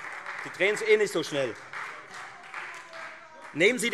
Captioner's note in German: Beifall Freie Demokraten und vereinzelt SPD - Widerspruch BÜNDNIS 90/DIE GRÜNEN